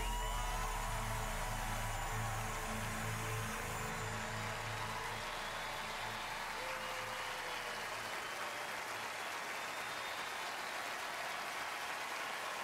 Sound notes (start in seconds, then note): 0.0 applause